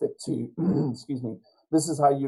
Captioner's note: clears throat